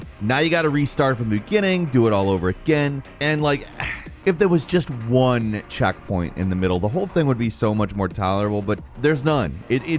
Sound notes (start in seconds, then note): 3.7 sighs